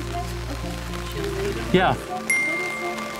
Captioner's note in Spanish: Ding